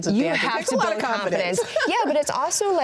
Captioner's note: laughs